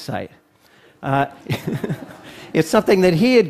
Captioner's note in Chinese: Laughter; 笑聲